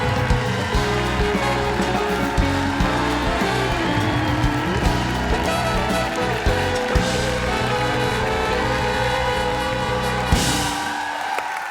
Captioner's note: cheers and applause